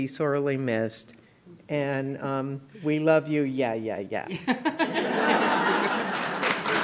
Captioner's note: clapping